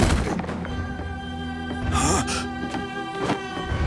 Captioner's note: gasping